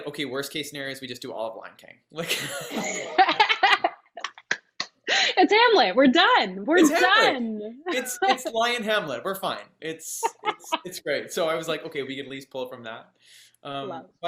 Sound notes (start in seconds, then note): 2.2 all laughing